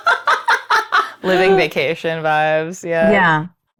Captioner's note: players laughing